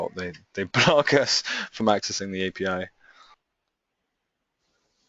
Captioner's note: chuckles